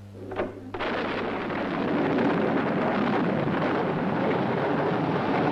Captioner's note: thunder and waves roaring